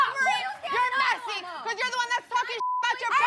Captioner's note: beep